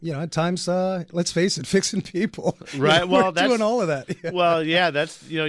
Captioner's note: laughs